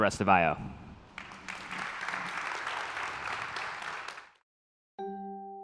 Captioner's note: applause